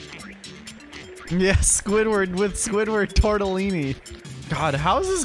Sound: laugh

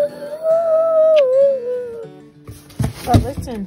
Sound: kisses

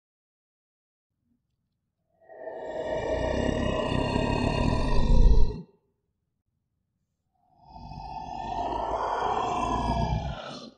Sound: dinosaur roar

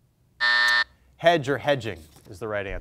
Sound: timer buzzes

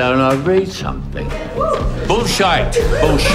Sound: crowd cheering

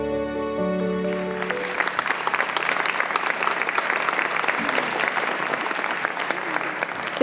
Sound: applause

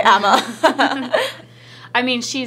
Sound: laughing

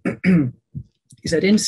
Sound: clears throat

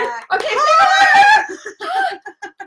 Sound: both cheer joyfully; laughs

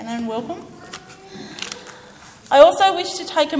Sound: child faintly speaking

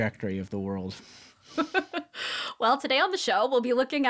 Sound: laughing

